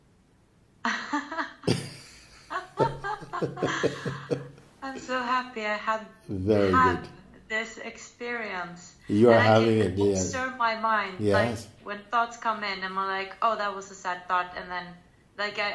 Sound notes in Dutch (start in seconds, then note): 1.6 lacht